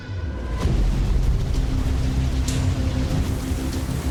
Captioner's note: heavy rainfall; intense cinematic music